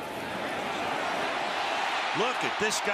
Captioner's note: cheering